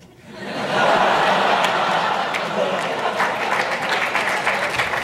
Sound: audience applause and laughter

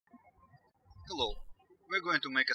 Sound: birds chirping

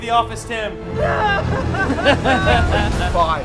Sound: crying; laughing

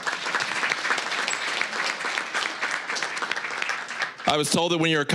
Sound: applause

